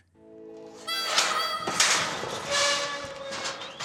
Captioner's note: gate clanging open